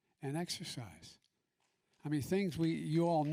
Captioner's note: applause